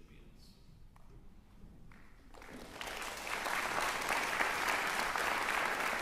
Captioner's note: applause